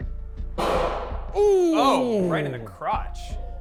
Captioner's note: gun booming